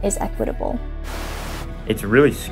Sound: TV crackling

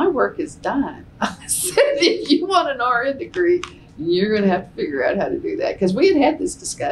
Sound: laughs

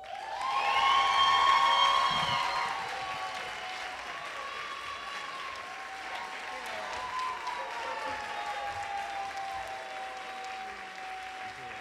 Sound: applause

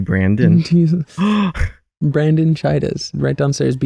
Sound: gasps

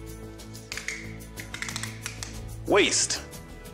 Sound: tape measurer clicking

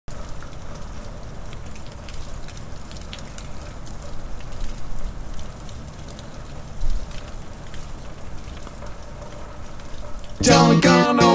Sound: sound of rain falling

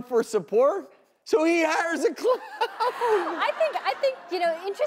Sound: laughing

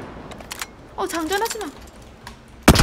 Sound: reloading

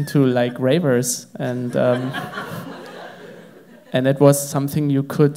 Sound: crowd laughs

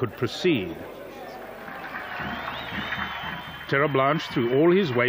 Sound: cheering

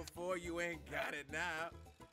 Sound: laugh

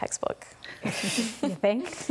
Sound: laughing

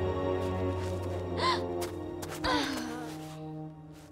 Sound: gasping, groaning

